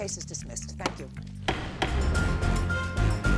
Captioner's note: gavel bangs; upbeat music